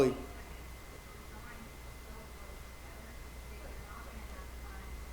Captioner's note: attendee talking quietly